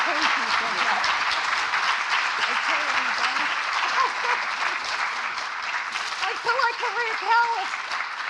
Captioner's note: applause